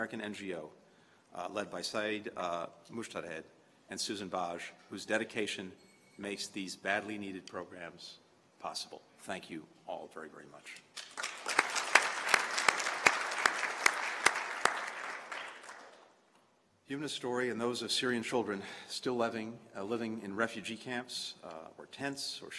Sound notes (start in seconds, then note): 14.4 applause